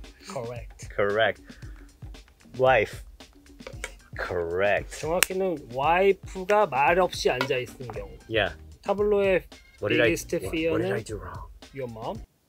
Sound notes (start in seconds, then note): 5.4 speaking in Korean